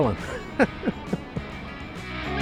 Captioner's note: laughs